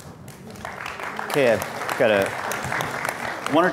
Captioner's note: audience applauds